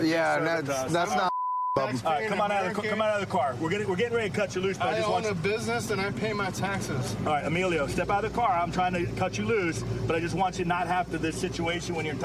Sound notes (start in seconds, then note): 1.1 chatter